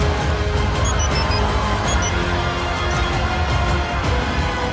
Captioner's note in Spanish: Suena un celular